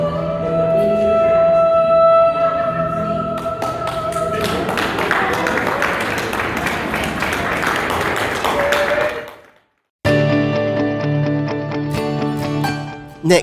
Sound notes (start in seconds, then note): 3.4 applause